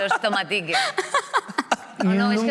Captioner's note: laughs